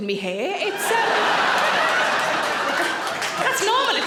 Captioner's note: audience laughing